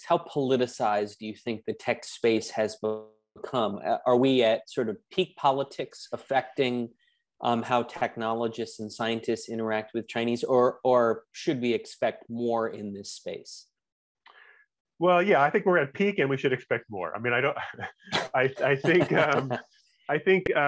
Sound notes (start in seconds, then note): 17.4 laughs; 17.4 chuckles